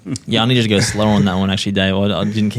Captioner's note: chuckling